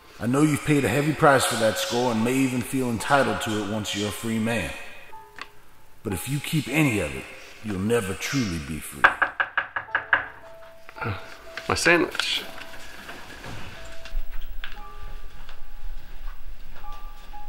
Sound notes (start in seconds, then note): 9.0 knocking at door